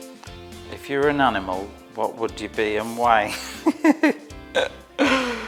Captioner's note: laughs